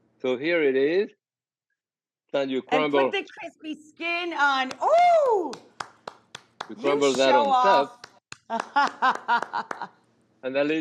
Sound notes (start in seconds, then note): 6.6 Rachael applauding; 8.4 Rachael applauding and laughing